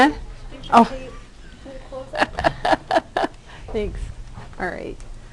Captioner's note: laughter